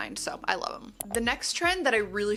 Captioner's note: mouse clicks